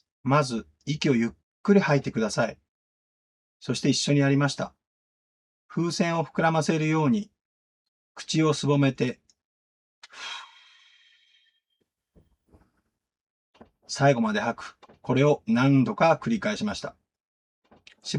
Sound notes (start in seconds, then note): 10.0 the sound of breathing out